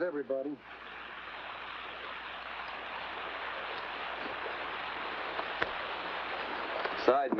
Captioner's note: water running